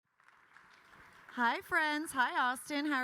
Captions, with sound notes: (attendees clapping) - Hi, friends. Hi, Austin.